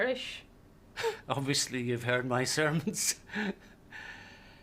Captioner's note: chuckles